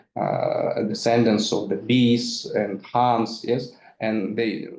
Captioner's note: speaks in foreign language